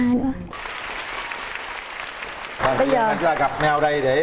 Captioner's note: applause